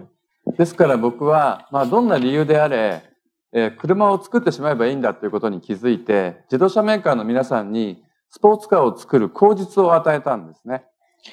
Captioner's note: speaking japanese